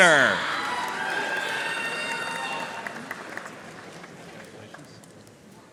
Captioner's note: audience cheering and applauding